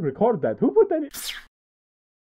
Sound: blip

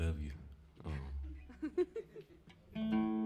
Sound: chuckling

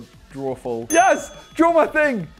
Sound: ding

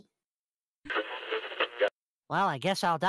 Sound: radio tuning noise

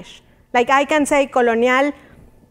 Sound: speaking in Spanish

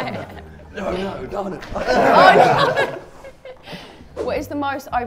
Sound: everyone laughs

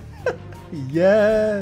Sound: laughing

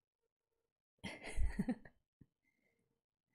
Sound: laughs

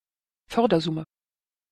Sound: fast Pronunciation

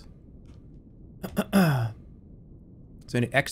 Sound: clears throat

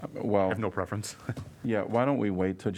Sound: laughter

